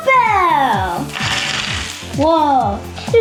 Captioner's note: toy pieces clattering